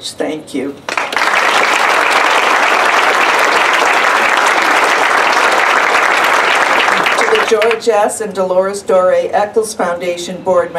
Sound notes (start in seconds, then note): 0.8 applause